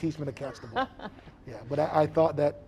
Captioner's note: laughing